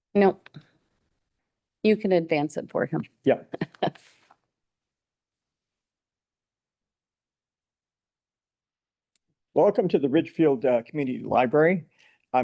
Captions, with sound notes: Nope. You can advance it for him. - Yeah. (person laughs) - Welcome to the Ridgefield Community Library.